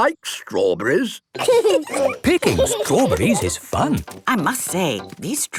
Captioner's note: laughing